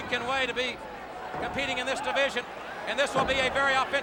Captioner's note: body thudding